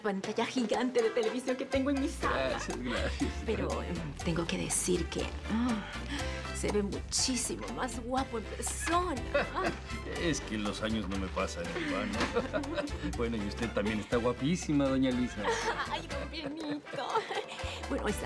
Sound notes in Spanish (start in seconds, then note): 9.3 Él ríe; 13.0 Ríe; 15.4 Risa nerviosa